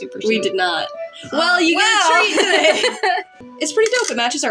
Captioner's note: laugh